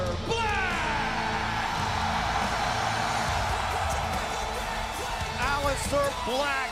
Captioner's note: crowd cheering